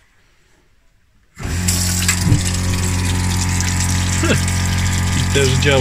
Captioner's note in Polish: odgłos pompy wody